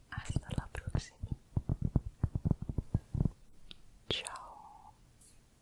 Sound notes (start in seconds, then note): 1.6 tapping on cork